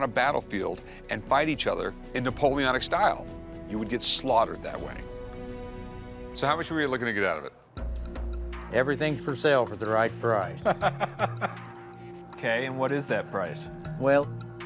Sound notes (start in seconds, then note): 10.6 Rick laughs